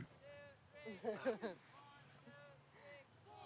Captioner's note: laughing